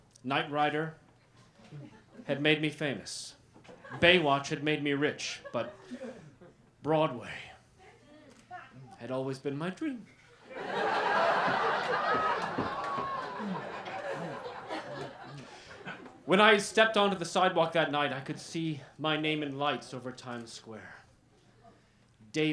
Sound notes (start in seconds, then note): 10.4 laughter